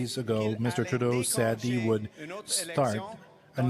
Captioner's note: speaking French